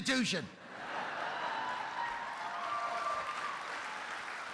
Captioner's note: applause